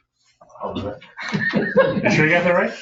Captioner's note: people chuckling